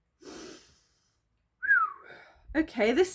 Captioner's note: sniff; whistle